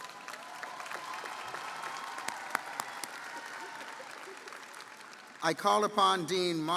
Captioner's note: audience cheering & applauding